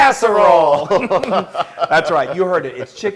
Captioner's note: laugh